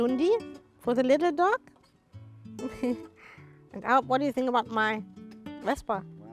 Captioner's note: chuckles